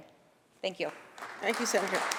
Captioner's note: applause